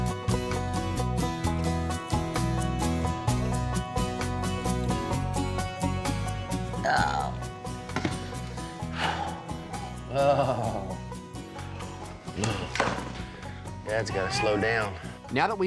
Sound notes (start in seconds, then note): 6.7 groaning; 8.2 exhales; 8.8 groaning